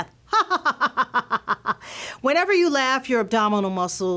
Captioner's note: laughter